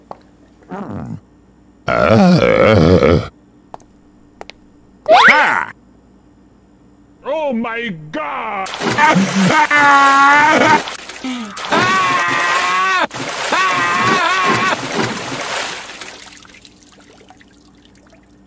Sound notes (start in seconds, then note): 1.9 tired groaning~; 10.8 sploosh; 11.2 deep Inhale